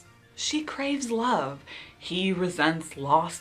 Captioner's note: none